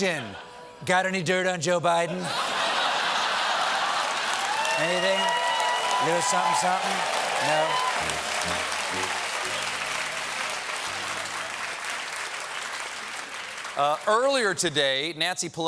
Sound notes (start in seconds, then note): 2.1 laughter; 5.1 cheers and applause